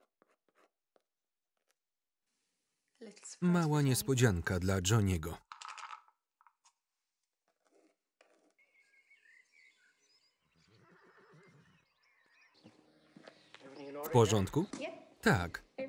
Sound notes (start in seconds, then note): 5.4 pills rattling; 8.4 birds chirping